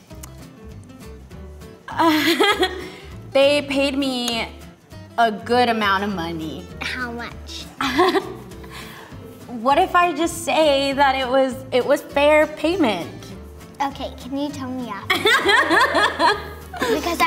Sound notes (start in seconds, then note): 7.8 laughs; 15.1 laughs